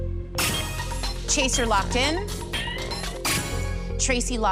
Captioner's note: chime